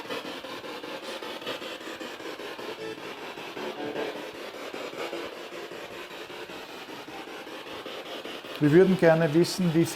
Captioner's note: noise of the spiritbox in the background